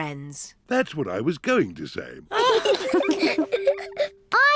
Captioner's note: all giggle